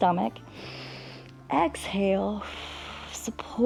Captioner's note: exhales; inhales